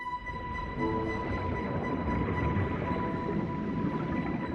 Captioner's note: water gurgling